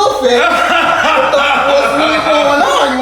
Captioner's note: laughing